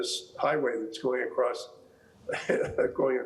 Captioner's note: chuckling